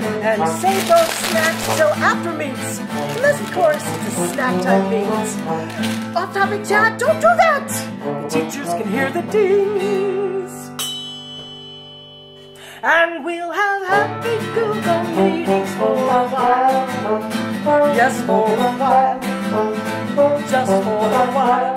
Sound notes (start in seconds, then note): 10.7 ding